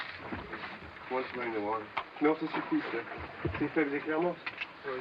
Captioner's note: speaking french